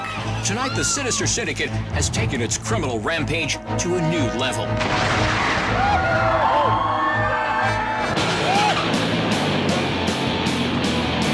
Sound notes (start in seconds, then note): 4.5 ride whooshing; 5.7 riders screaming; 8.2 upbeat rock music